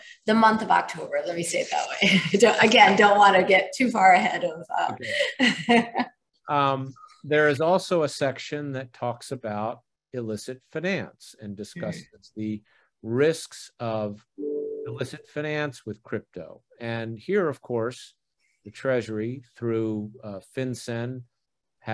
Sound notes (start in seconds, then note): 6.5 Under Secretary Liang laughing